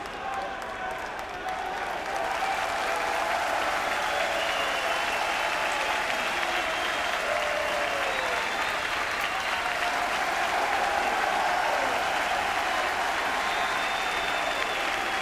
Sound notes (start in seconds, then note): 2.5 crowd cheering and clapping; 10.3 crowd cheering and clapping continues